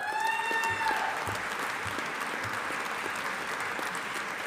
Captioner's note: audience applauding